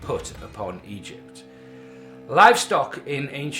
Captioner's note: sinister droning sound effect plays